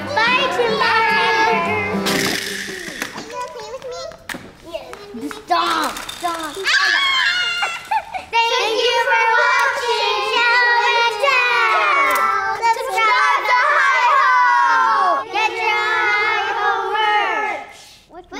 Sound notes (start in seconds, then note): 6.6 screaming; 6.7 toys clacking